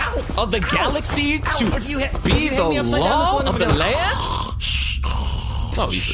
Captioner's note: snoring